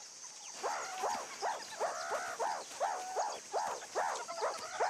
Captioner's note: urgent barking